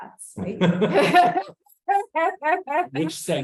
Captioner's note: laughs